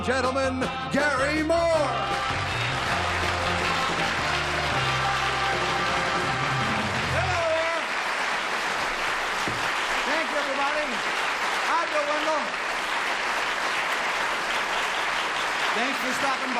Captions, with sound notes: - Ladies and gentlemen, Gary Moore. [applause] - Hello there. Thanks, everybody. Hi, Bill Wendell.